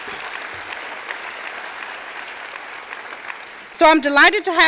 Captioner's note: applause